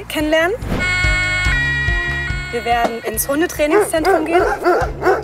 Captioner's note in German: Sirene